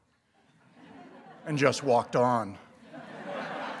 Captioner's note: laughter